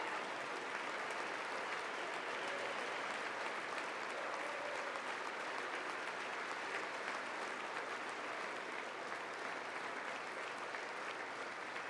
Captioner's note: applause